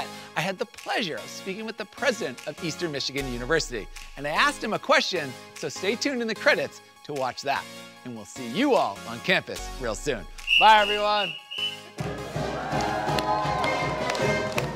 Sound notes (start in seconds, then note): 10.4 whistle blowing; 12.4 upbeat marching band music